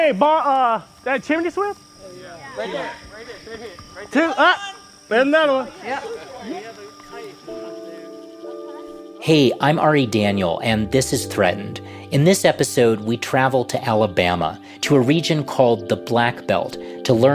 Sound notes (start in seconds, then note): 5.6 crowd reaction; 7.6 random chatter; 8.1 theme music